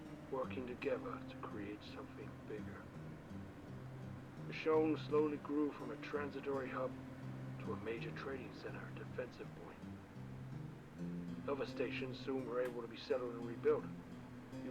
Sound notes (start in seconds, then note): none